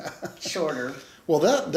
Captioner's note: laughs